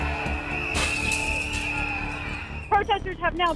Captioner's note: window cracks